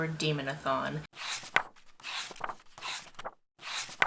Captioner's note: pages turning